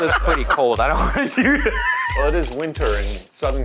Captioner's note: laughs